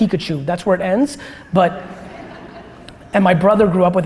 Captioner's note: audience laughter